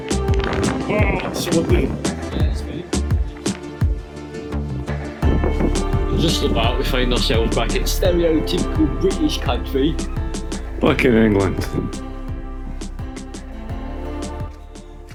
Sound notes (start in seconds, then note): 7.8 english Accent